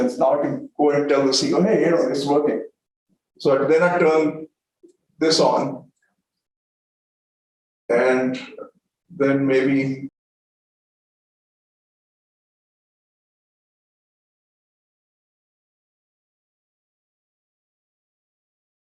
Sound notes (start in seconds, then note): 7.9 sound effect plays in background; 12.1 audio cuts out